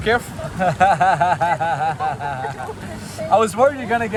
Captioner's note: laughing